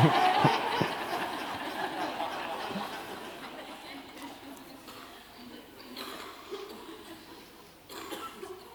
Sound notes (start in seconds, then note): 0.0 laughter